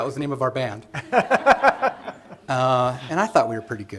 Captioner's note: laughter